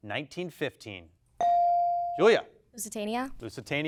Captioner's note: bell dings